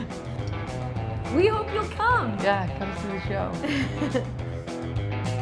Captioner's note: laughs